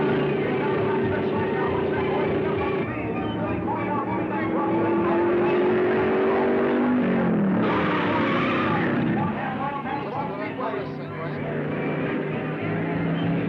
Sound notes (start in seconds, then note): 0.0 car booming; 0.3 car revving; 4.0 car whirring; 7.5 tires squealing; 10.4 thrilling music